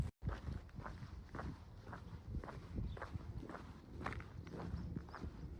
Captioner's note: footsteps and bird song